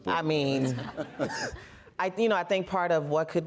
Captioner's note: laughter